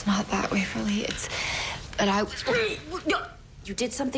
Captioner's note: gagging